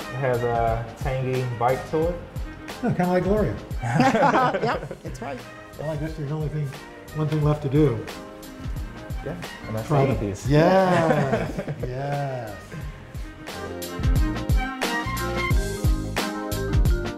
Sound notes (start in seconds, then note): 3.8 laughter; 13.6 upbeat jazzy music